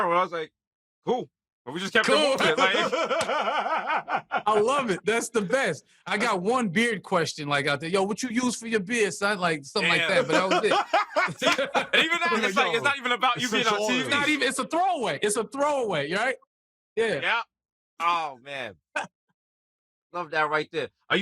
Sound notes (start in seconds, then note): 2.0 laughing; 9.8 laughter